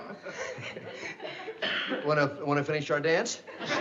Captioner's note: laughs